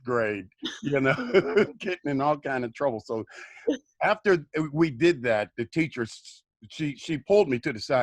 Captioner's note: laughter